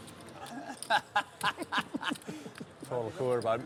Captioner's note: laughing